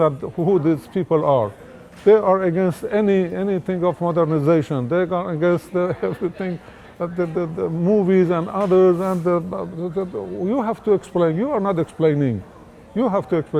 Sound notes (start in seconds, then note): 6.2 laughs